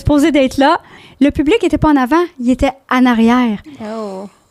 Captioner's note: in french